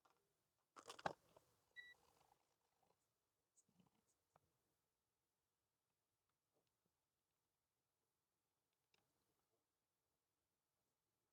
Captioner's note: silence